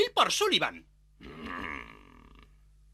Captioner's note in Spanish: ríe